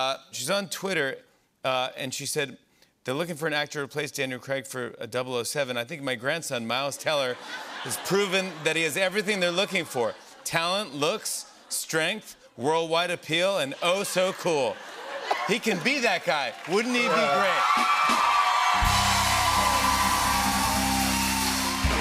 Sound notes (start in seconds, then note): 13.8 laughter; 17.3 cheers and applause